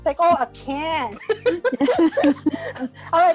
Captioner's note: laugh